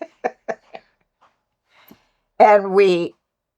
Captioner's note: laughter